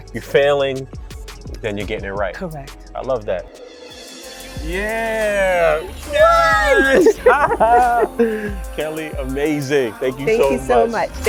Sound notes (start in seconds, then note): 6.0 cheering